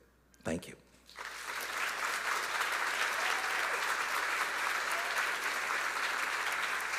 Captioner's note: audience applauding; audience cheering